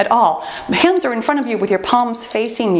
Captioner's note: timer beeps